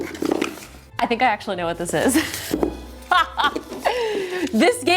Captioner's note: laughing